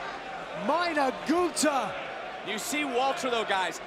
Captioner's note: speaking in foreign language